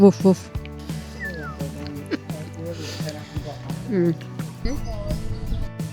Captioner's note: laughing